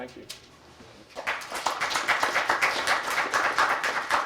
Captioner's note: applause